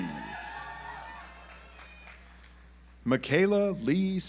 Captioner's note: audience applauds